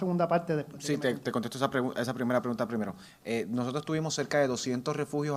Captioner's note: speaks in foreign language